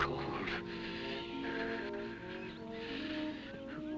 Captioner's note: Ralph shivering